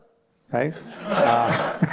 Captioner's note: laughter